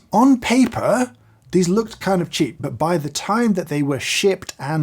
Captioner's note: none